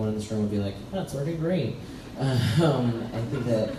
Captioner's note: laughs